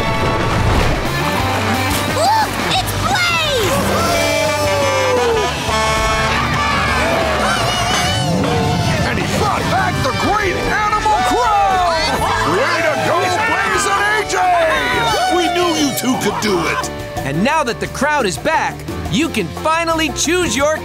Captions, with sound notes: Look, it's Blaze! [truck horn honking] [cheering] And he brought back the great animal crown! Way to go Blaze and AJ! We knew you two could do it! And now that the crown is back, you can finally choose your king.